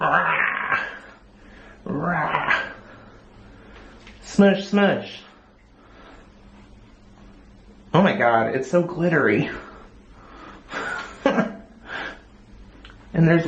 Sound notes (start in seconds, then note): 10.8 laugh